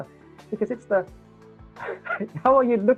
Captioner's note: laughs